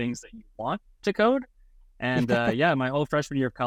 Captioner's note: chuckles